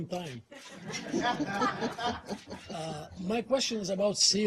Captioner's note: reporters laugh